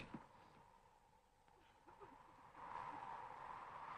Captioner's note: Mary sobs